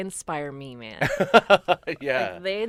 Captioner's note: interviewer laughs